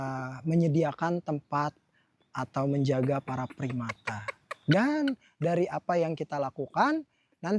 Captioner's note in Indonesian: tertawa